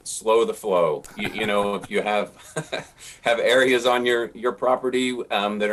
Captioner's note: both laugh